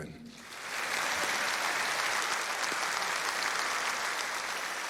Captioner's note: participantes aplaudindo